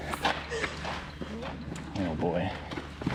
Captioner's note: laughs